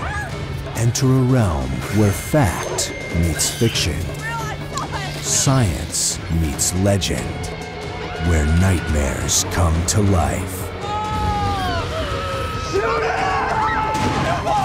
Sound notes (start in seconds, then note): 8.0 screaming